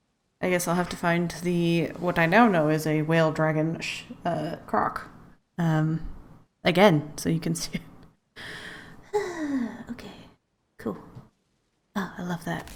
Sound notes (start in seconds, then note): 9.1 sad laugh